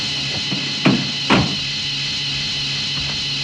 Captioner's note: tires skidding on gravel; car door slams